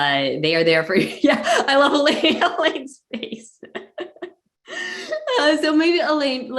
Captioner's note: laughs